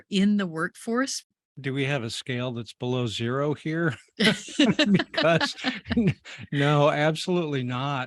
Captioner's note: laughs